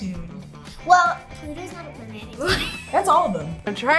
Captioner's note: laughs